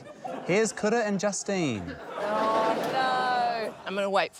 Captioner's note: laughter